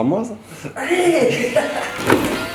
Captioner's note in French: rires